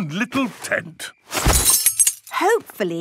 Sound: clang-ruffle-thump

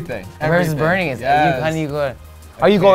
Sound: speaks foreign language

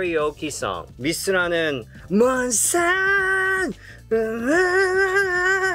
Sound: speaking in Korean

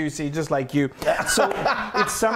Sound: laughs

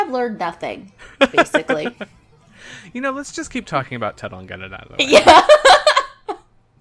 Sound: laughs

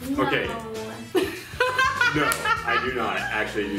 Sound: laughing

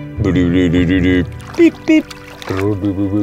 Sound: low voice beeping

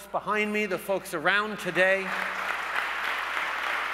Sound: applause

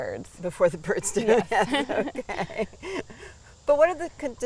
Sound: both laughing

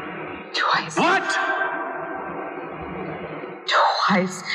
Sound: whispering; shouting

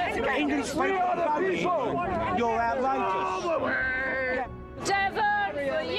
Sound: protestors yelling

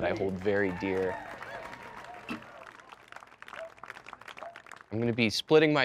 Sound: clapping and cheering

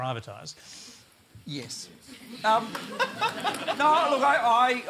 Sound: laughter

